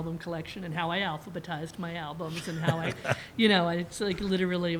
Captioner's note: laughter